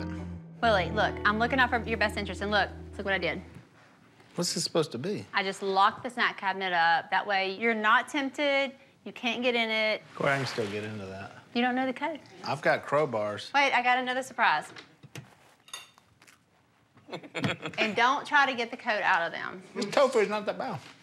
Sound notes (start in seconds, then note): 17.0 laughs